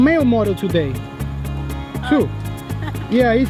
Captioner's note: laughs